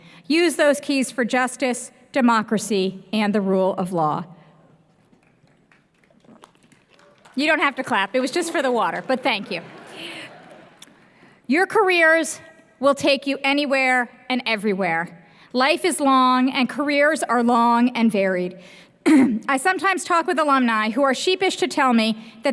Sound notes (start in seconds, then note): 5.4 scattered applause